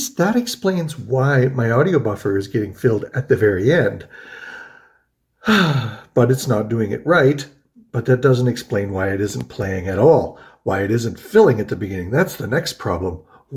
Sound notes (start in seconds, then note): 5.4 sighs